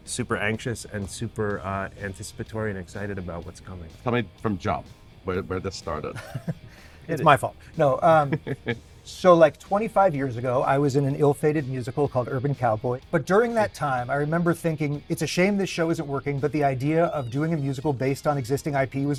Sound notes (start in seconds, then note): 6.0 chuckling